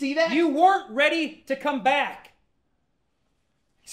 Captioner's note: none